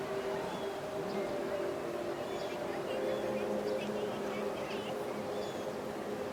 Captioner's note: people chattering continues; gentle music continues